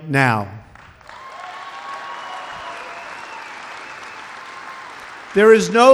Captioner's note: applause